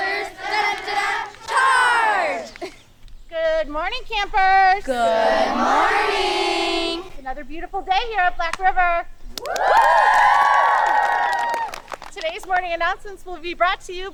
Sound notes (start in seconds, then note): 2.4 chuckles; 9.4 campers applauding